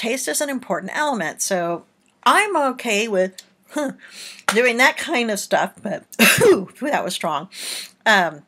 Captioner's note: coughs